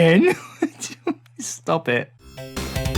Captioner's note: giggles